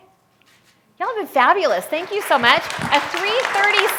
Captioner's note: applause